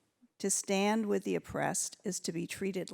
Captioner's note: none